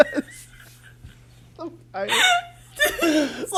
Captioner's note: both laugh